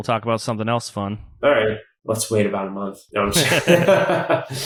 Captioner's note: laughs